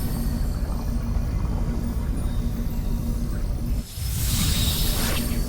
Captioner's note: spell chiming; portal humming; portal opening